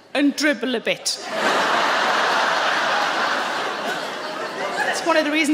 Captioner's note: audience laughing